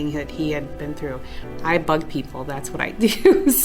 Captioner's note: chuckles